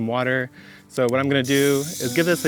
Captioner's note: hose spray